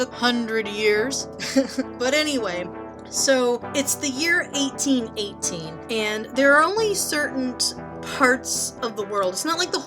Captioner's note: laughs